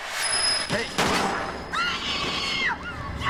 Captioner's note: gunshot